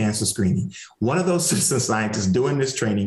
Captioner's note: chuckles